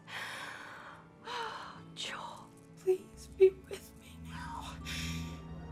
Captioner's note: sighs